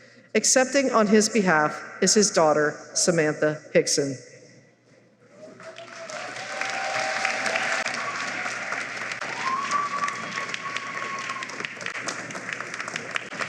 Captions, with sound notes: Accepting on his behalf is his daughter, Samantha Hickson. [applause]